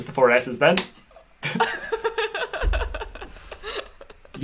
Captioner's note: laughter